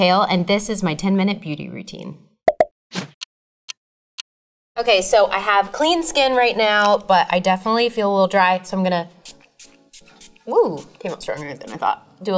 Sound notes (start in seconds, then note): 2.5 cork popping; 3.1 clock ticking